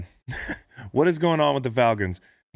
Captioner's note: laughs